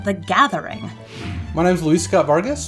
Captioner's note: air whooshing